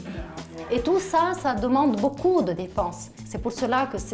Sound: speaking French

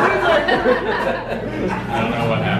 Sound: chuckling

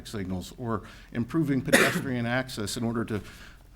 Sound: attendee coughs

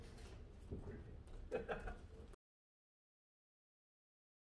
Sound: chuckling

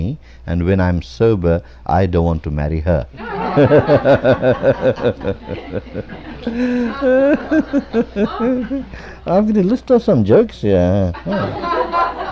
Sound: laughter

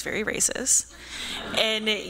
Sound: laughter

